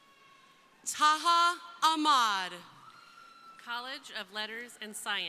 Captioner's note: crowd cheering